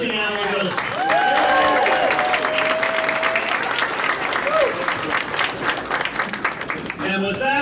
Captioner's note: applause